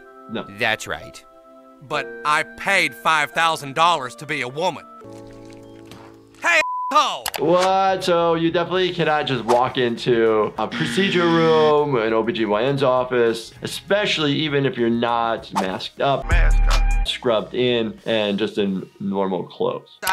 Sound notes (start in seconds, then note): 6.6 beep; 10.7 buzzer buzzing